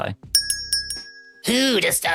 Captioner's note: bell dings